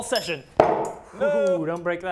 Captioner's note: crash